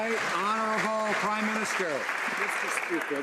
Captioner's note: some Applause